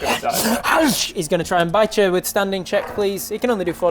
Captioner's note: nom